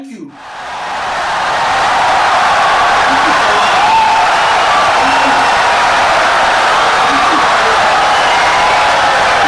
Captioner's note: wild applause and cheering for 17 seconds